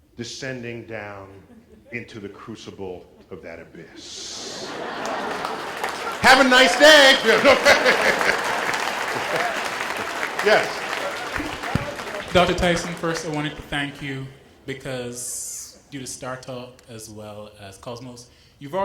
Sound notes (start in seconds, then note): 5.2 laughter and applause; 8.1 laugh